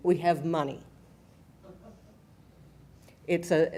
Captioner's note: laughing